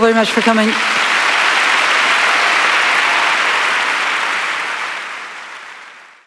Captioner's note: applause